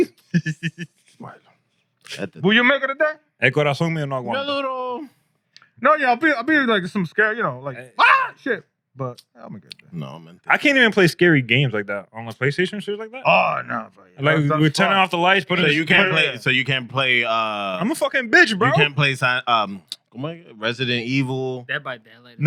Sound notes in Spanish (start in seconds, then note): 3.6 Hablando en idioma extranjero